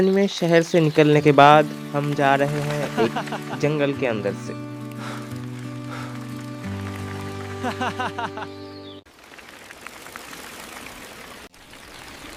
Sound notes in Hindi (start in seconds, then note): 5.9 हांफने की आवाज़; 7.6 हंसी